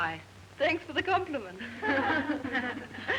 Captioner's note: laughing